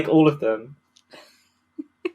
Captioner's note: laughs